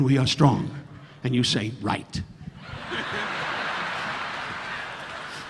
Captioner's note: audience laughing